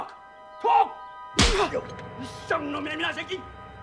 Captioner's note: Shouting In Korean